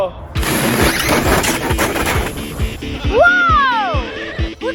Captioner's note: RC car whirring